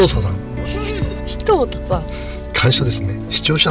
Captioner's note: laughs